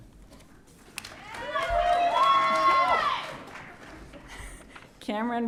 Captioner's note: audience cheering